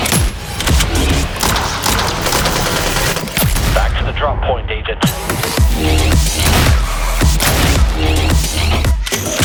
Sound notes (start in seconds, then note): 0.1 rifle popping; 1.6 guns blasting; 5.6 upbeat electronic music; 6.1 guns blasting; 9.1 gun cocking